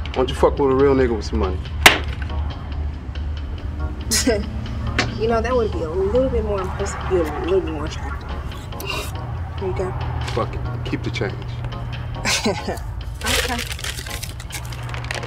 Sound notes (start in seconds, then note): 4.6 laughs